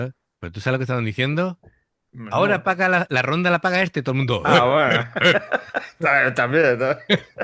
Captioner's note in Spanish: risas